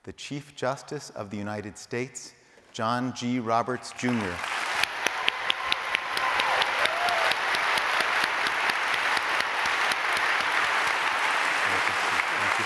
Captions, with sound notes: the Chief Justice of the United States, John G. Roberts, Jr. [APPLAUDING]